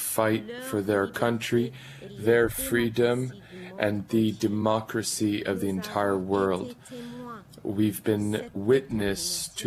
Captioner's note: speaking French